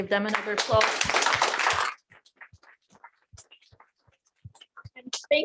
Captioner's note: applause